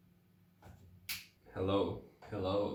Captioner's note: quirky finger snap transition